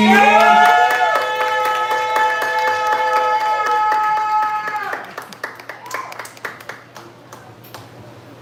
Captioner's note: hollering and applause